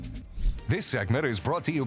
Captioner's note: logo whooshes